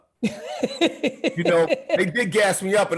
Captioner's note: Gary laughing